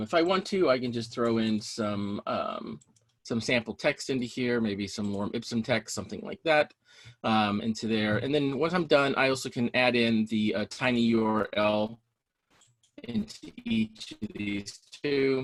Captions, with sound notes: If I want to, I can just throw in some sample texts into here, maybe some more, some texts, something like that, into there. And then once I'm done, I also can add in the tiny URL (audio distorting)